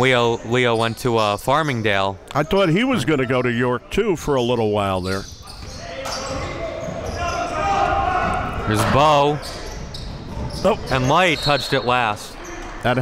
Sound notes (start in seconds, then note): 6.5 yelling; 11.3 whistle blows